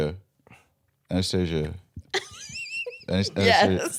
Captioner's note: laughing